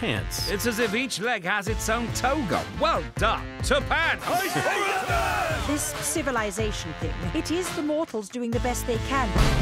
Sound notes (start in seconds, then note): 4.2 cheering